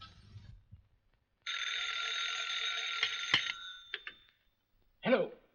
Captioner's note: phone rings